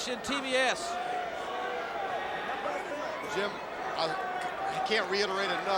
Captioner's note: crowd chatter